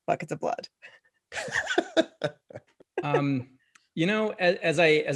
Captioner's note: laughter